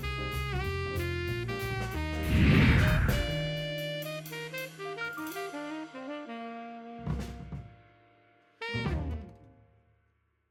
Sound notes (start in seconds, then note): 0.0 relaxing jazz music continues; 2.2 screen whooshes